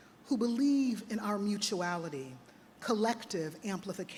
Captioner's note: none